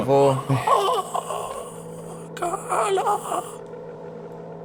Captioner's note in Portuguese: gemidos